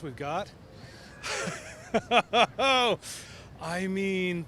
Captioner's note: laughter